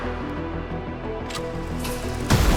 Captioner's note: projector clicks; dramatic music continues